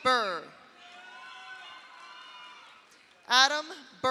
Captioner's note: audience cheers; audience applauds